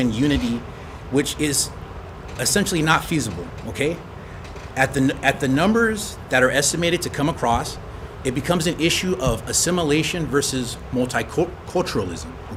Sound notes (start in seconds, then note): none